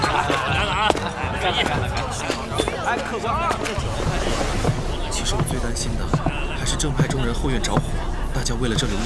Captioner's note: people in the tavern chattering